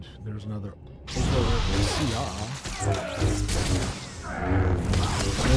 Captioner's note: gunfire